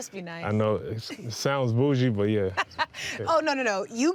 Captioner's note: laughing